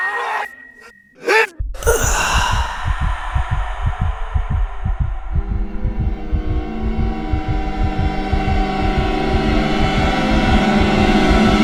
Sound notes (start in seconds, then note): 1.6 heartbeat; 1.7 sigh of relief; 9.5 steadily intensifying horror music